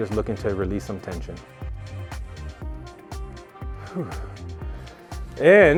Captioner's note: deep breathes